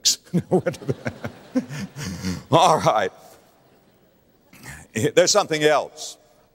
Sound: audience laughter

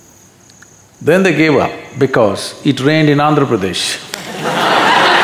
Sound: laughter/Applause

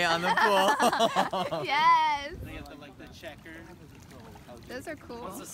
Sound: laughs

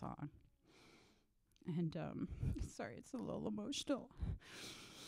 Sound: voice wavers

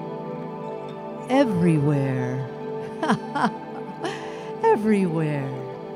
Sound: laughs

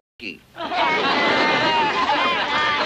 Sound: Gang Laughs

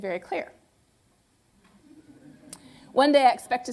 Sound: laughter

